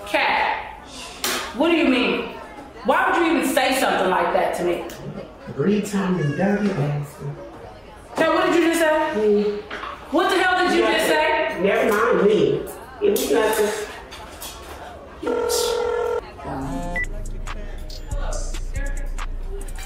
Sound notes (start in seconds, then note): 15.2 phone ringing; 16.4 hip hop music; 16.9 phone beeps